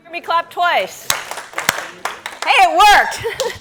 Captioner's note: group clapping